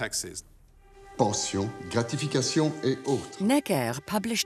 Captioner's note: Necker speaking in French